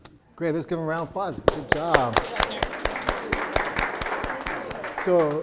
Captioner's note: applause